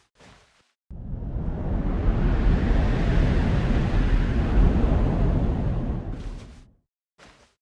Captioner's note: air wooshing